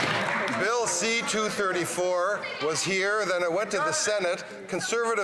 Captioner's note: some Applause